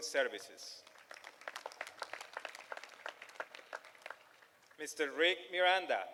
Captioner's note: applause